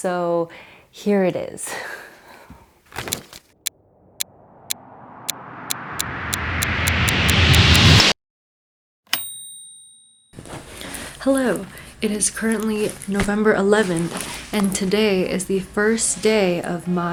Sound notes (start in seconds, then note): 9.1 ding